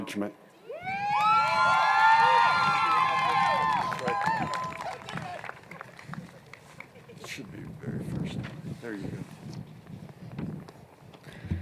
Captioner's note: cheers and Applause